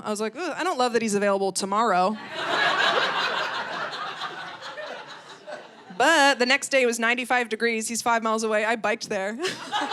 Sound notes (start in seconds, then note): 2.2 audience laughing; 9.4 audience laughing